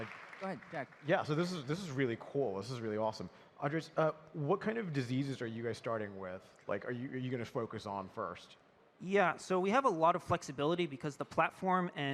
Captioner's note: applause